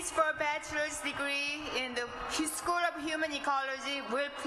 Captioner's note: applause